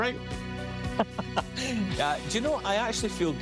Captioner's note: laughing